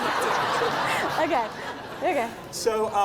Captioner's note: giggling